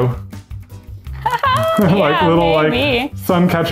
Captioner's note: laughs